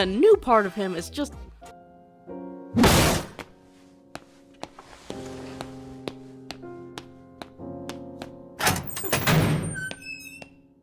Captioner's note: table slam